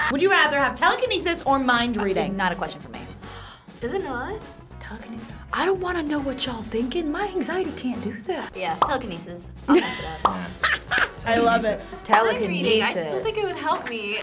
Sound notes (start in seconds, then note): 0.0 both laugh; 3.2 React gasps; 10.4 React laughs